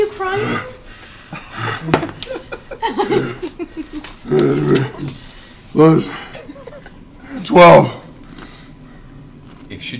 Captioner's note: grunts